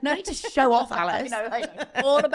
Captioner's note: both laughing